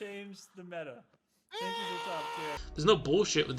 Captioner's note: Hugo screams in agony